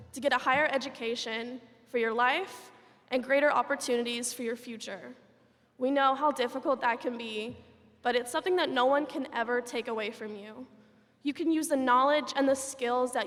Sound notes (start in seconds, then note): none